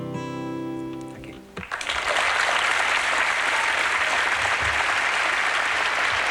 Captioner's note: applause